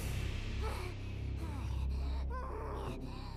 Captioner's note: grunting